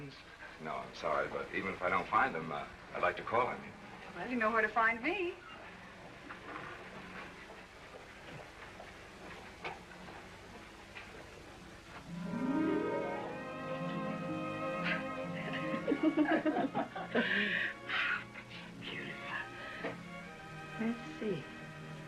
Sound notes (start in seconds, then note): 14.7 giggling